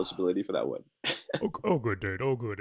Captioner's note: laughter